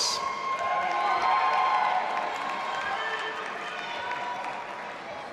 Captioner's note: audience applauding and cheering